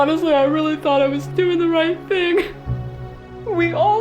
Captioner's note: crying